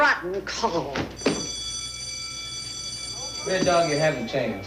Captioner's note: school bell rings